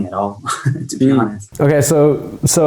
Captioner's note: chuckles